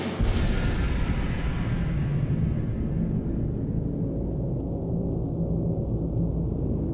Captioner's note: dramatic music; plane engines roaring